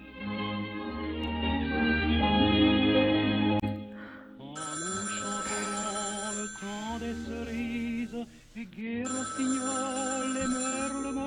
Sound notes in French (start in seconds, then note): 7.8 téléphone sonne